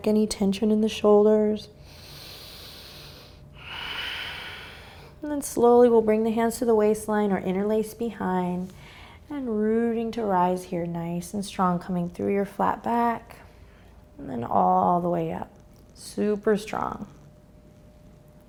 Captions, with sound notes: any tension in the shoulders. (breathing heavily) And then slowly we'll bring the hands to the waistline, or interlace behind. And rooting to rise here, nice and strong. Coming through your flat back. And then all the way up. Super strong.